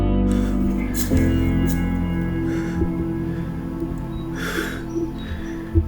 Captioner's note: panting